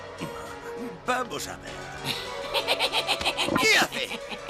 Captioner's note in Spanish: risa malvada